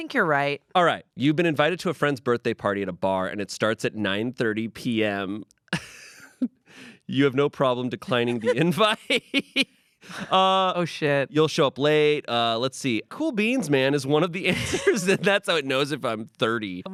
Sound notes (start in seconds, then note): 5.8 laughs; 8.0 everyone laughs